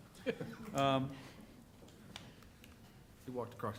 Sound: laughter

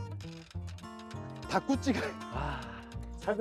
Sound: haha

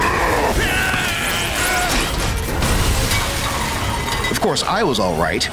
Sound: growl; yells

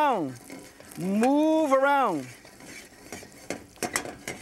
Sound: pan moving

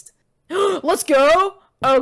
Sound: gasp

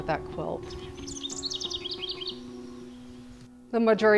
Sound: bird twittering

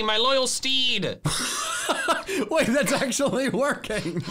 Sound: laughing; laughs

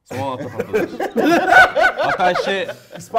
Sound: laugh

